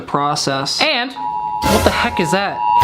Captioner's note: alarm blaring